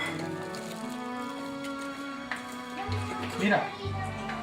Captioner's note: speaking spanish